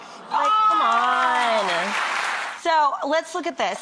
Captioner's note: loud clapping